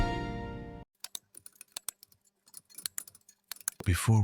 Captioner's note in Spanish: Teclas de computador